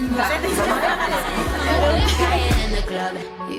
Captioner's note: laughs